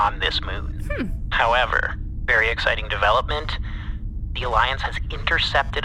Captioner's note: in a well-whaddya-know tone